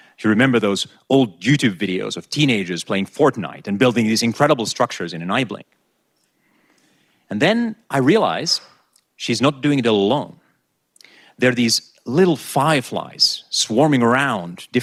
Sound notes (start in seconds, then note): none